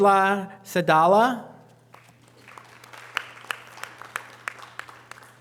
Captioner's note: audience applause